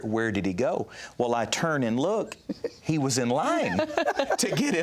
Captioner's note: laughter